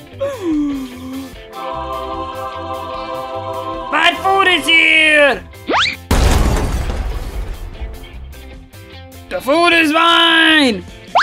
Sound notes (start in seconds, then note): 0.2 surprised Wario noises; 6.0 crash sounds